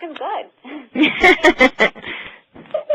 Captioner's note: laughter